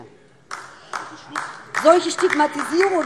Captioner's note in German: Beifall DIE LINKE